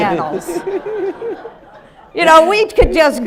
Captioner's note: audience laughing